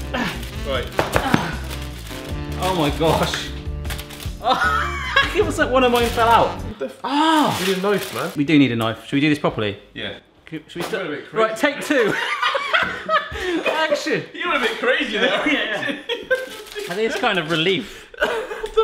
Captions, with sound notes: Oh my gosh. One of mine fell out. - We need a knife, man. - We do need a knife, should we do this properly? - Yeah. - Take two. (laughing) Action. - You went a bit crazy there. - I think it's kind of relief.